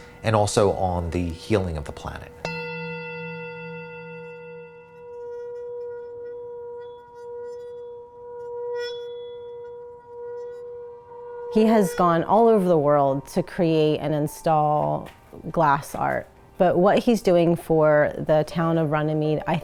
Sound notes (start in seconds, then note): 2.4 ringing; 5.0 bowl hums